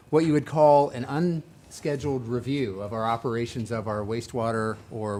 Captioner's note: none